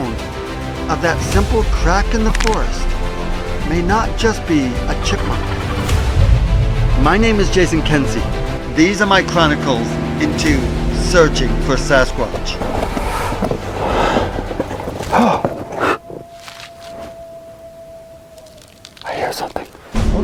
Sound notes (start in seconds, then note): 11.8 footsteps; 12.9 exhaling; 15.4 animal howling; 15.4 gasping